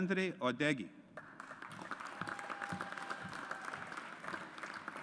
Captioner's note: audience applauds